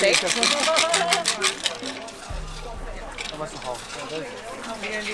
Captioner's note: container rattles